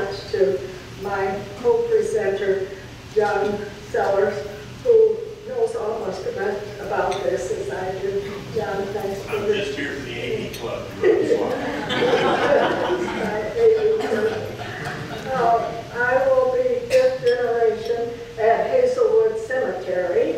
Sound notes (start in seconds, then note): 11.6 laughter drowns out